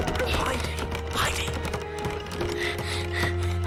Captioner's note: whispering